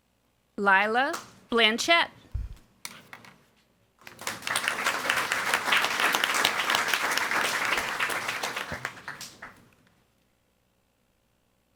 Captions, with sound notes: Lilah Blanchette. (audience applauding)